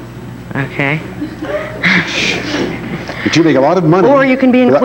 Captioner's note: audience laughing; laughs